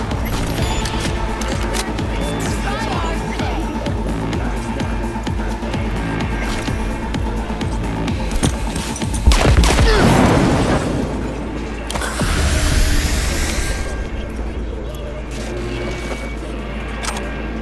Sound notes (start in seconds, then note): 2.1 dramatic music; 9.2 gun firing